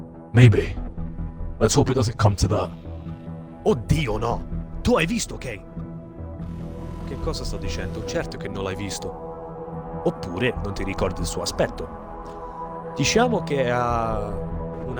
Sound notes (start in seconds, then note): 3.6 renzo speaks italian; 12.9 renzo speaks more italian